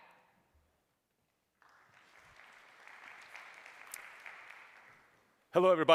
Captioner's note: applause